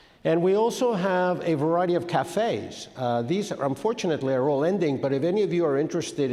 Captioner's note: none